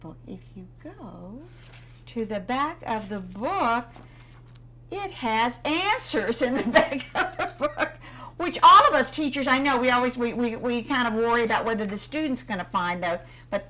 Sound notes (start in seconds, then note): 6.4 laughter